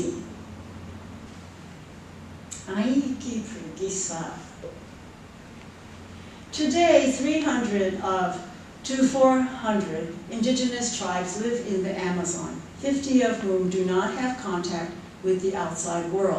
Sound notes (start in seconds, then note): 2.6 non-english speech